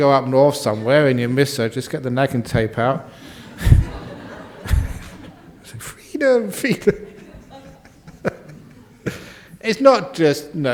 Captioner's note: laughter